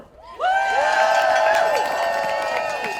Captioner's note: audience cheering